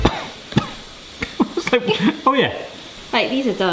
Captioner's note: coughs